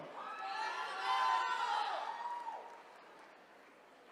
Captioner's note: attendees cheering